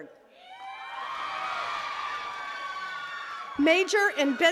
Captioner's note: attendees cheering and clapping